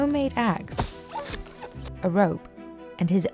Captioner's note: ax thwacks